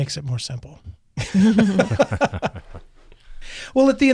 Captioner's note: panelists laughs